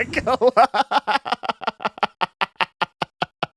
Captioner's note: laughing